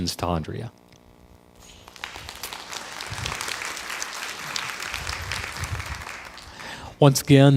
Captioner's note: crowd applause